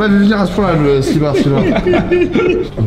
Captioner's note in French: rires